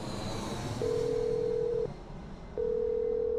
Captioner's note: ringing tone